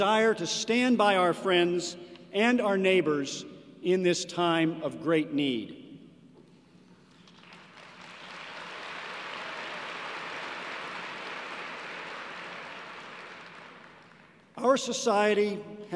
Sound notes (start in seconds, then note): 7.0 applause